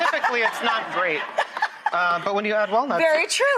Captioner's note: laughter